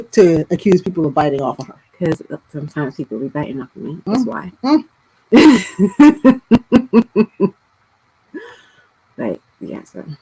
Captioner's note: laughter